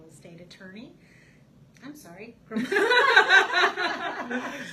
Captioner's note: laughs